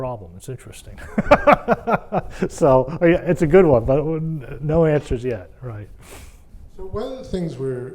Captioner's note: laugh